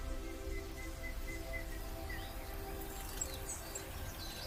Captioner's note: birds chirping